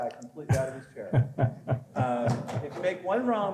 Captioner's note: laughing